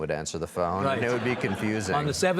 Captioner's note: audience laughs